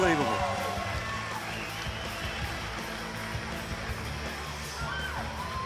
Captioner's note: crowd cheering